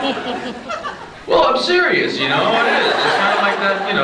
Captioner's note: scattered laughs; laughs